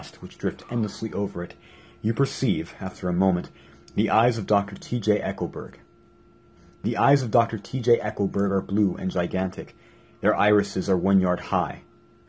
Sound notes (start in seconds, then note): none